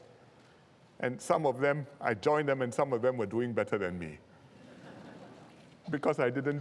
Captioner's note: laughter